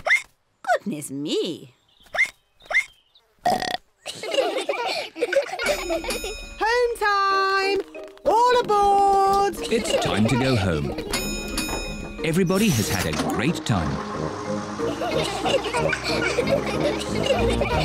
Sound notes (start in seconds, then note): 2.1 hiccups; 2.4 all giggle; 3.4 ducks hiccup and burp; 5.6 bell dings; 14.8 all giggle